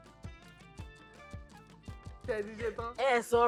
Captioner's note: laughs